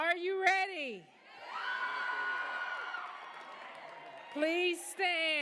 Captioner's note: cheers